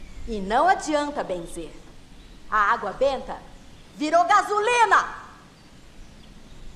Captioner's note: none